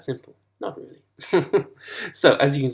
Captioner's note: laughs